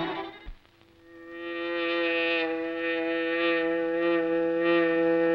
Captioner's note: hornet buzzing